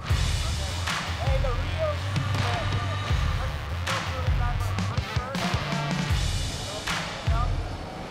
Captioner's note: applause